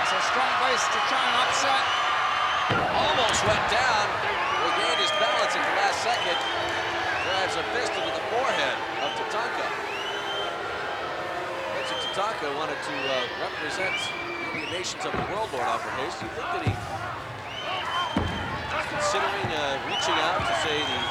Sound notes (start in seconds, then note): 3.7 blows thudding; 6.9 crowd cheering